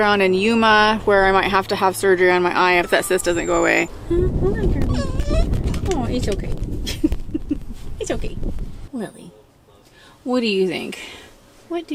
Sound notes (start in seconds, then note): 4.8 dog whining; 6.8 chuckling